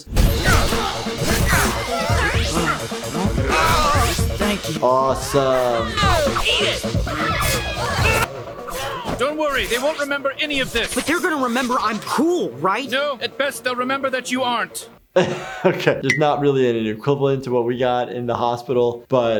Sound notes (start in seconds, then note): 0.3 people shouting; 1.1 sword slicing; 3.5 people groaning; 7.5 quirky music; 15.1 laughs